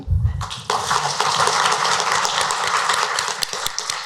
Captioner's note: applause